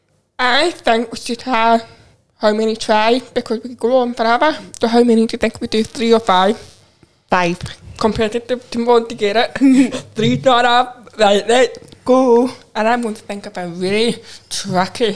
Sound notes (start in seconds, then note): 9.5 chuckles